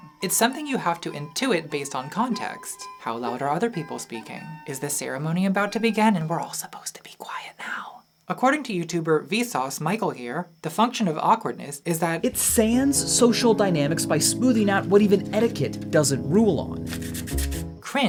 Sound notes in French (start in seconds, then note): 7.9 chuchote